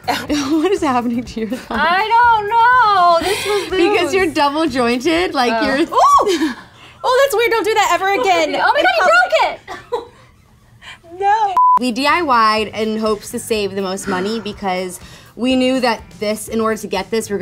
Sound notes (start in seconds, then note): 11.2 laughs